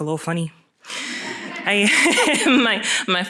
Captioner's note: laughter